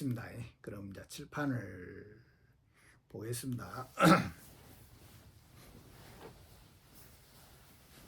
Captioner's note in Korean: 목을 가다듬음